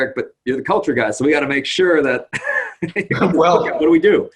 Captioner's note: laughs